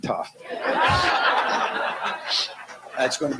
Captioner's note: laughter